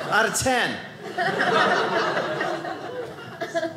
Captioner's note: audience laughing